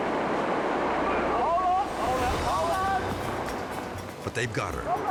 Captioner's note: water rushing; edgy dramatic music